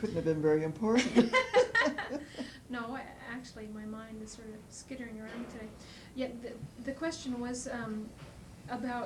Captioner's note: laughter